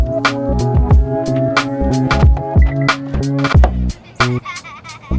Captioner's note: upbeat music; car alarm beeping; child laughing